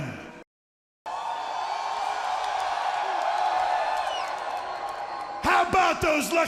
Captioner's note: crowd cheering